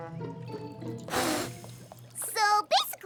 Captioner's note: blows